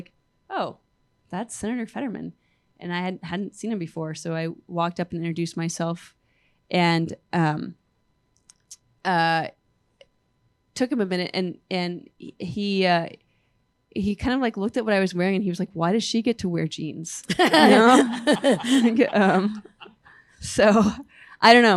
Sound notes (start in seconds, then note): 17.2 laughter